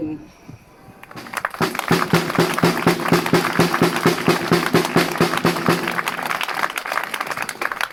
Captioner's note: applause